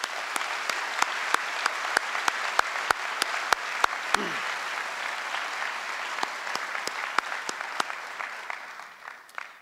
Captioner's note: applause